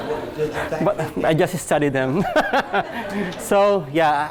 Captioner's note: laughs